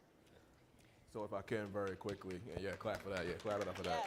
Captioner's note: audience applauding